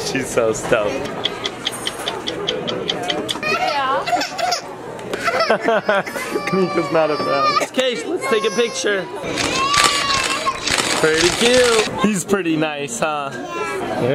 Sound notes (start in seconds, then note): 1.4 clock ticking; 3.6 baby crying; 9.3 camera flashing